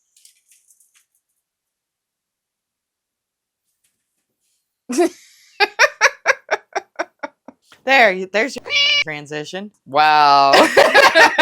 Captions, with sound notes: [snorts in video editor] There. There's your [MEOW]ing transition. -Wow.